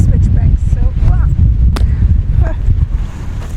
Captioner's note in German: lacht